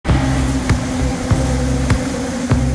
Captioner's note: engine Revving